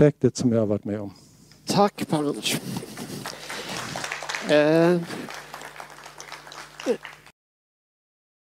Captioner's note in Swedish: Applåder